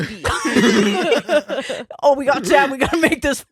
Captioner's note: laughing